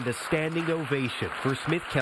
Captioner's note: clapping